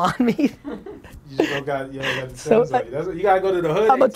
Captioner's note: laughing